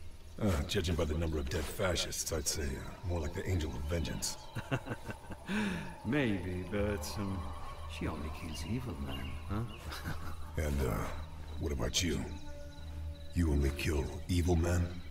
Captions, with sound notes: Oh, judging by the number of dead fascists I'd say more like the Angel of Vengeance... [LAUGH] Maybe. But, um, she kills only evil men, huh? [CHUCKLE] And, uh, what about you? You only kill evil men?